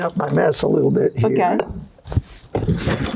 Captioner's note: scraping sounds